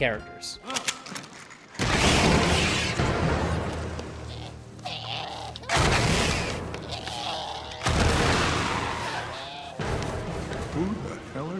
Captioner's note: grunting